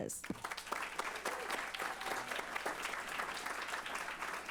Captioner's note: applause